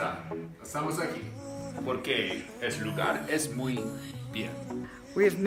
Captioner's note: speaks in Spanish